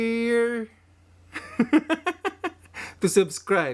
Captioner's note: laugh